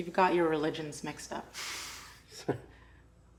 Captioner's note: laughs